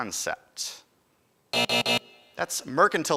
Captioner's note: alarm buzzes